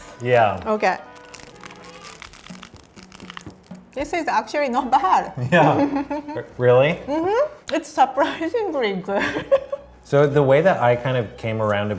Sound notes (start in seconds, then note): 1.2 chewing; 9.4 laughing